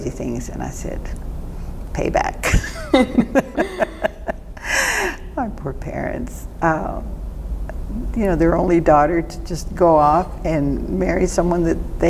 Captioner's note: laughter